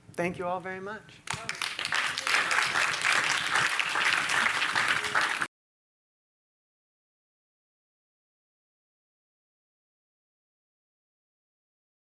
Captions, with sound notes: Thank you all very much. [applause]